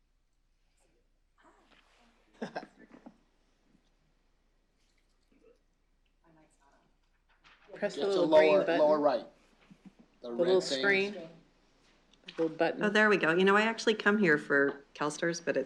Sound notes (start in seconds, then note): 2.3 laughs